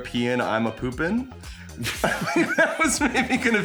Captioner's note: laughing